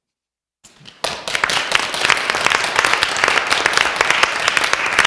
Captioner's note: applause